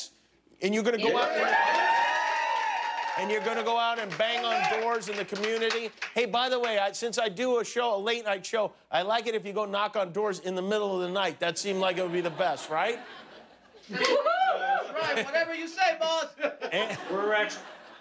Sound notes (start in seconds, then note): 6.2 applause